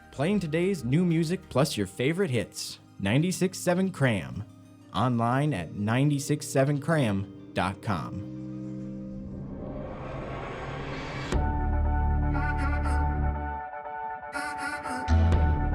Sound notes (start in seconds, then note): 8.8 whooshing; 11.4 upbeat music